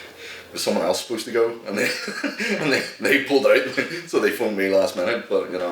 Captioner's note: laughter